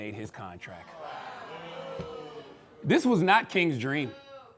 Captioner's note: crowd booing